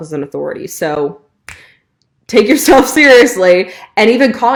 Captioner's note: snapping